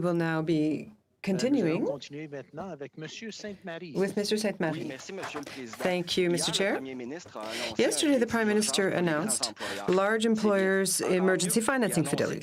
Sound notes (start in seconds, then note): 1.6 speaking french